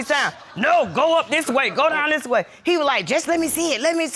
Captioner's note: deep voice